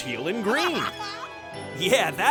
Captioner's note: laughing